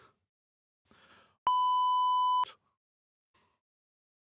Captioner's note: beep